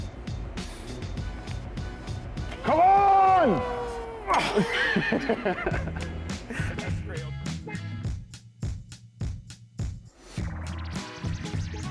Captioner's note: laughter